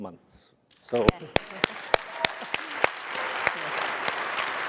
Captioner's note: applause